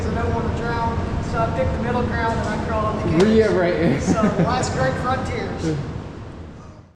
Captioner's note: laughs